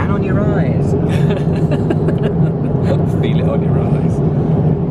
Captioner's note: laughs